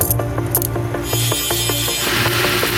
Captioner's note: handcuffs cling; grinding noises; welding noises